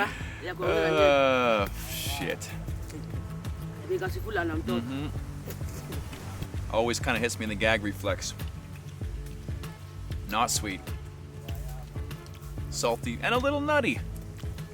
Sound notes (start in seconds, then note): 3.2 speaking in native language